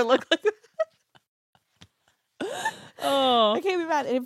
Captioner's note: laughs